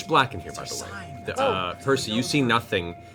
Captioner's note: whispering